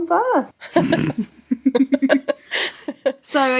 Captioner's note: both laughing